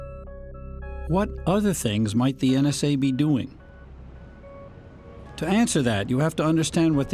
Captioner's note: voice-over